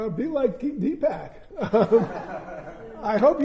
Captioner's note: laughter